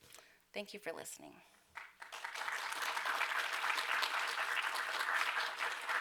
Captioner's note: applause